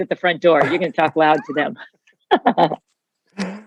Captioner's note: laughing